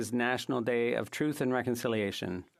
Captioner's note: speaking French